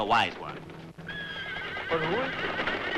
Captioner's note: horse neighing